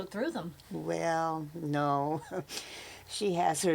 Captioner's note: laughs